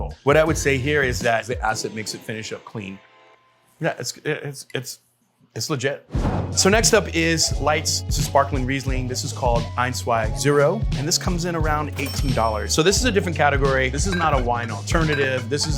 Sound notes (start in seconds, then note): 6.1 graphic whooshing; 11.9 register bell rings; 14.1 bottles clanging